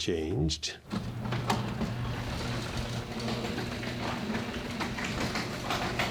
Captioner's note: garage door opening